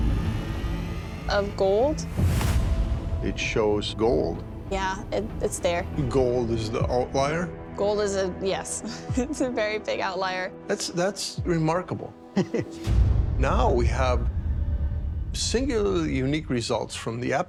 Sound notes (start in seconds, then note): 12.3 chuckles